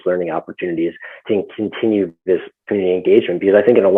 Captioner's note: murmurs